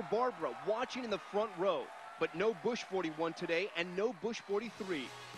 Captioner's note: cheers and applause